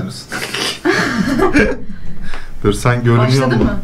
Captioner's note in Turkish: Gülüşmeler